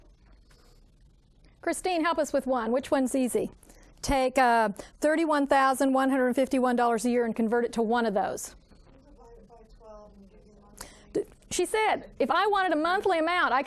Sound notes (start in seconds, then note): 8.9 student speaking faintly